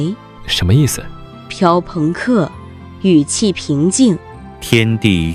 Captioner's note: speaks calmly